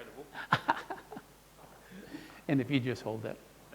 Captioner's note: laughing